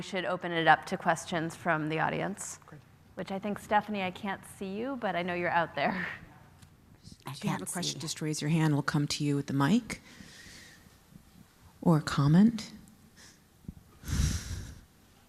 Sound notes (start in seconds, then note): 5.7 laugh